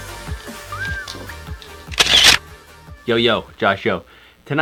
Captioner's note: whistling